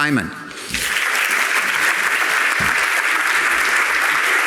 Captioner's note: audience applauding